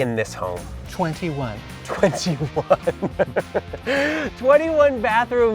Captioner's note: laughs